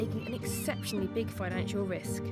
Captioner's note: seagulls squawking